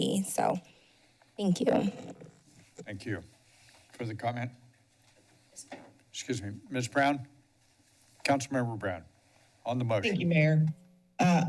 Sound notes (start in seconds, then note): 2.1 mic sounds